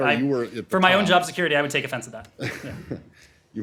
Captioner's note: laughter